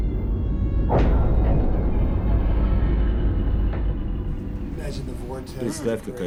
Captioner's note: thud